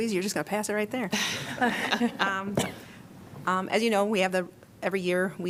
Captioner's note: laughter